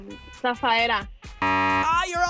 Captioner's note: beep